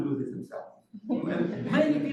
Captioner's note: laughter